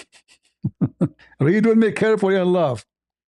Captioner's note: ketawa